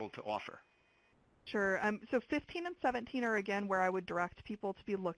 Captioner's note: voiceover